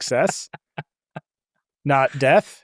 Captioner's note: laughs